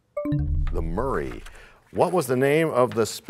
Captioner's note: bell chimes, time expires